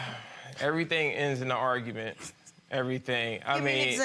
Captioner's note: sighs